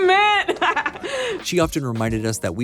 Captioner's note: laughs